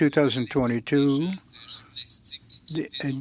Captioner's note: speaking French